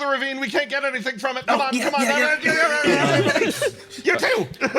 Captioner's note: struggling Noise x3